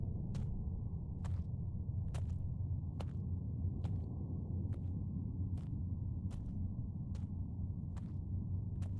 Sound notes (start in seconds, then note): 3.2 footsteps crunching continues